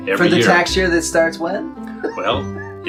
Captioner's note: laughs